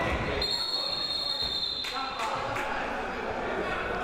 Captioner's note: whistle